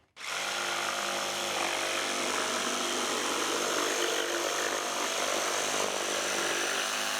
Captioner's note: sawing wood